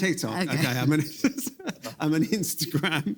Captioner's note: laughs